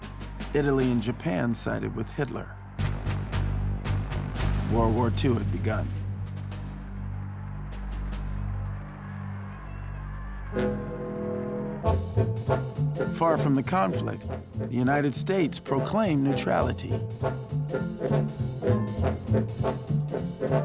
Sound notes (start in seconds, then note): 6.3 crowds cheering; 10.3 upbeat music